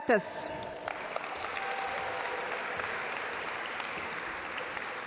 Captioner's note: audience applaud